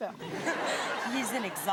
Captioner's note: audience laughing